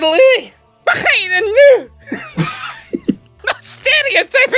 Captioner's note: garbled scottish!!!